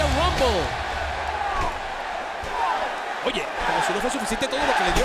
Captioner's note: applause